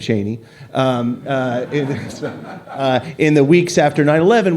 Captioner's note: laughter